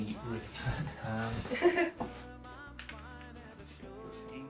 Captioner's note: laughing